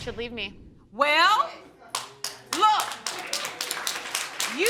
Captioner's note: audience applauds